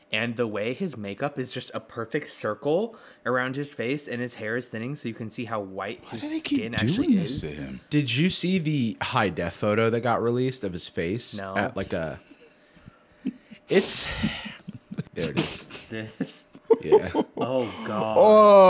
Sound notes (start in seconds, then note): 13.6 sighs; 16.3 laughs